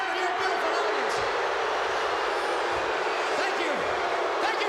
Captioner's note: crowd boos, whistles, and cheers